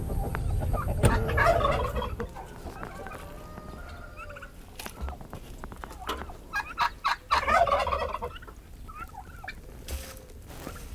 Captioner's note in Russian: звуки животных